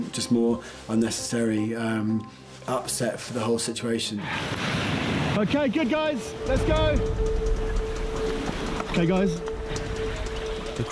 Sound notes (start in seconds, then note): 4.4 waves crashing; 7.2 dramatic music